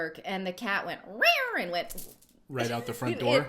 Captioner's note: imitates meowing